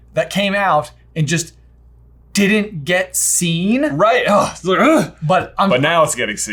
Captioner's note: both groaning